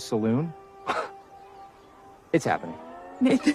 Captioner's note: scoffs